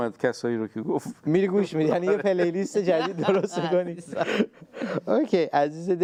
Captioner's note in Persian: خنده